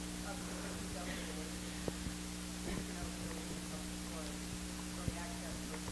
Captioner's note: speaker Talking Faintly